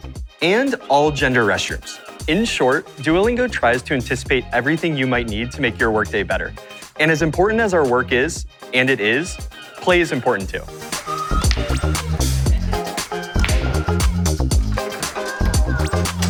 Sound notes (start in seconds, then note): 11.8 people laughing; 12.9 lively music continues